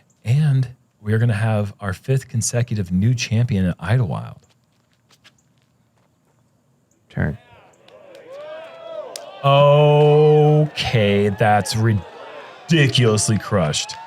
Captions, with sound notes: and we're going to have our fifth consecutive new champion in Idlewild. Turn. [cheer] Okay, that's ridiculously crushed.